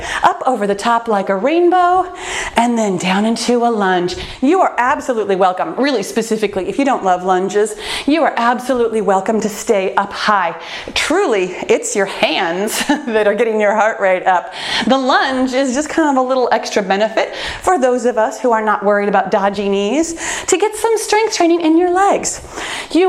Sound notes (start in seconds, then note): 12.5 laughs